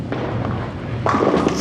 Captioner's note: pins crashing